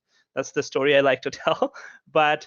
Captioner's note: giggles